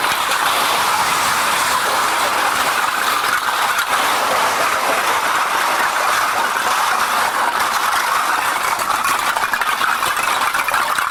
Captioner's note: the sound of cans being loaded into the machine